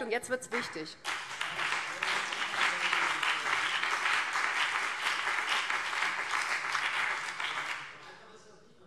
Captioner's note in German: Beifall BÜNDNIS 90/DIE GRÜNEN